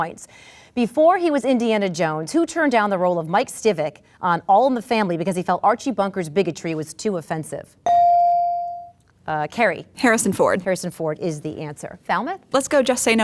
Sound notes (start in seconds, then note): 7.8 ding